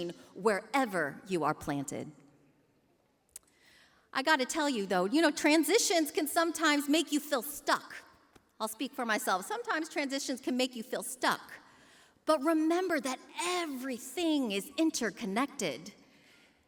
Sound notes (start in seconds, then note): none